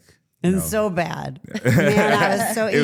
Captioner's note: Trick chuckling; participant chuckling